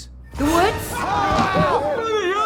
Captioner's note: screaming